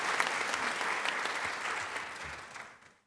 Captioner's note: applause